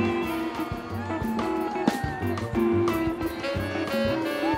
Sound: applause

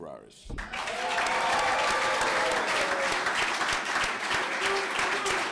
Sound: clapping

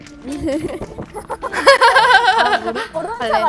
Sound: exchange awkward laughter lol

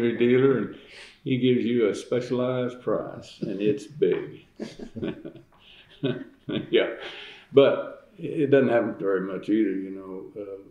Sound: laughter

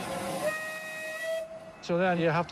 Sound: locomotive whistle

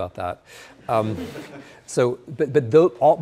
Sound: students laughing

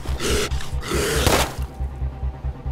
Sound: gun shot

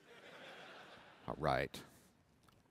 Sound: laughter

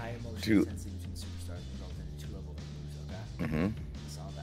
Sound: laugh

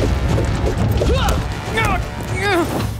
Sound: grunting

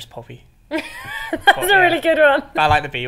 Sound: laughs

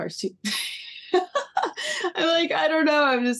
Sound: laughing

